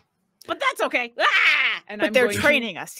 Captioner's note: shouts